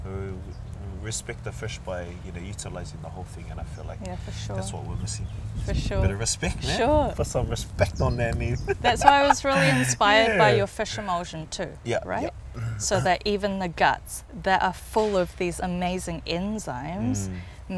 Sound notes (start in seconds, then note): 8.5 laughs